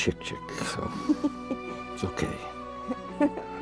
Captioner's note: Chicken Little chuckles